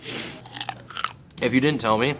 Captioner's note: sniffing; bar crunching